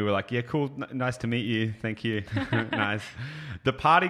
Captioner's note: chuckles